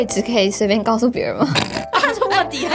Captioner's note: pig snoring